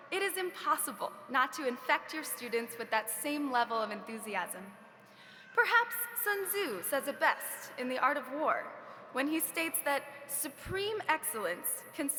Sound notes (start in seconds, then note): none